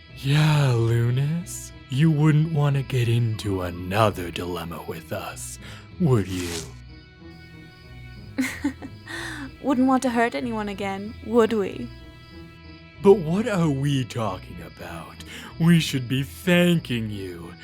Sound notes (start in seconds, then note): 8.3 Vixy chuckles